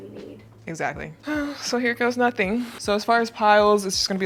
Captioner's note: exhales deeply